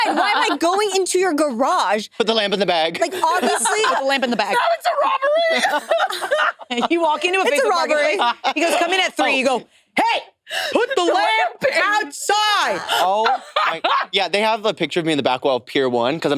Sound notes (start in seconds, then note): 7.1 laughs